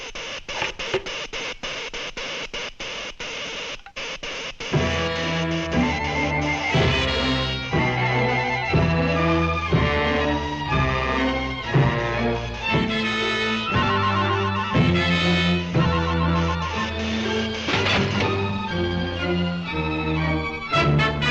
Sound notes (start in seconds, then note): 0.1 electricity zapping; 5.3 footsteps thudding; 5.3 ominous music; 17.0 ominous music continues